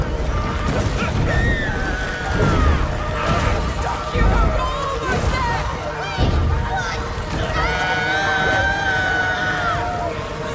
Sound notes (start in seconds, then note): 3.6 characters shouting